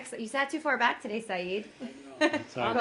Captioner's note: laughter